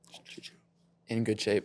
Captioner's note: whispering